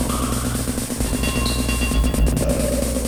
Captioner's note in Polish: Metaliczne uderzenia; Metaliczne dzwonienie